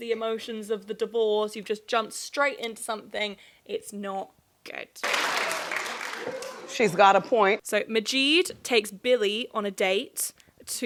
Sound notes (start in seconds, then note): 5.0 audience clapping